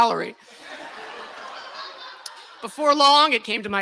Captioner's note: laughter